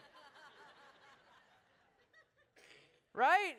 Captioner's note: laughter